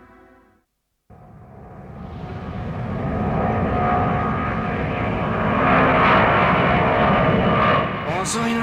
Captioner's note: the sound of an airplane flying